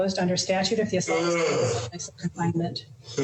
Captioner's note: yawns loudly